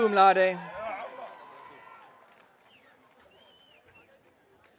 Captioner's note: audience cheering